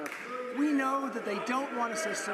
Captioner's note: applause